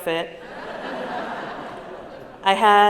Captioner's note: laughter